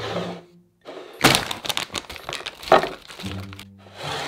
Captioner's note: bag rustling